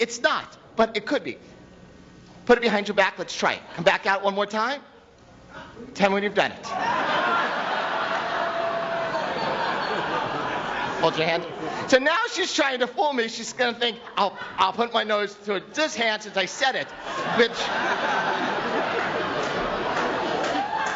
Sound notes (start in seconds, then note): 6.7 audience laughs